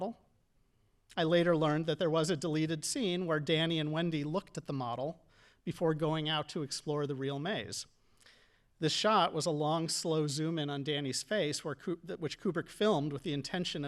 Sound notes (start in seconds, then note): none